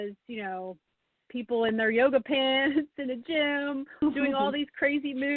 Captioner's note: laughs